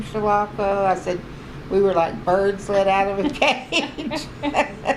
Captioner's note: laughs